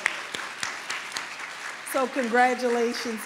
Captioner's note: applause